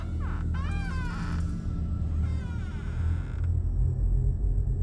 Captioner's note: creaking